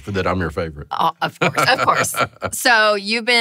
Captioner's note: laughing